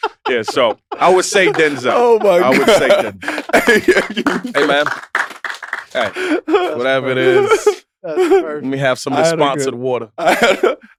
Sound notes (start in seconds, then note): 0.0 all laughing; 3.1 applauding